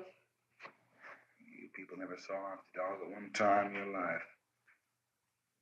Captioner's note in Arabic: يتمتمة